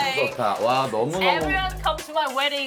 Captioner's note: speaking in English